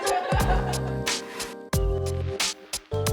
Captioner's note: laughter